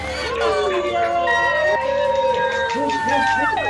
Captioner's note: grads chattering